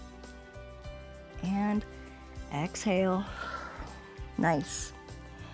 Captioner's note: exhales